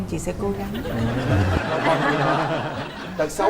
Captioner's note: laughing